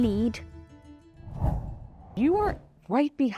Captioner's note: screen wipe whooshes